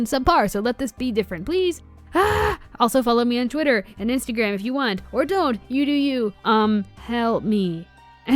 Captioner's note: screams